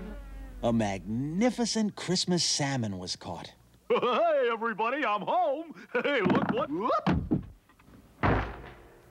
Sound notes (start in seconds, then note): 5.2 chuckling